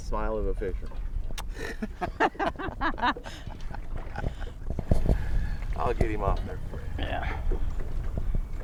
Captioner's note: kissing sound; laughing